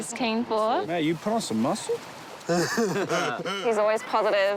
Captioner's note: laughs